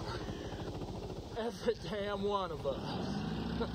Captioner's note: laughing